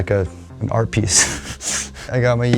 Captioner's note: laughing